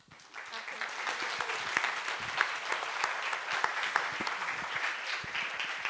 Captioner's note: applause